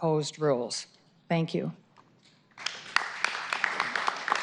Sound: applause

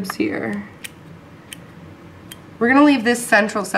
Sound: clipping sounds

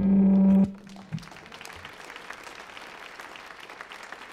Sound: audience applauds

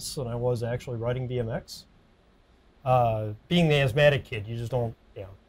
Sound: none

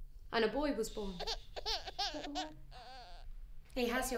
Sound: baby crying

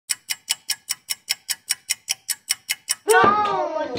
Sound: clock ticking

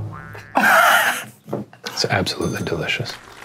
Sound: drum roll playing; laughing; audience applauding

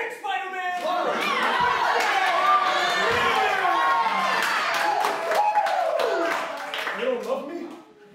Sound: cheers

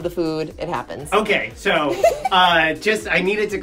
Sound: laughs

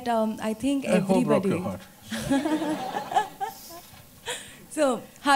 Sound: laughter

